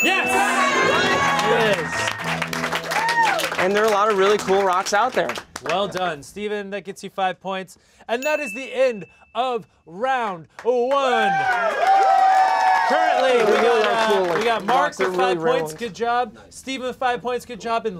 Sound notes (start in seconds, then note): 1.7 cheering, clapping x10; 10.6 cheering, clapping x456